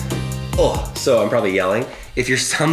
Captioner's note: grunts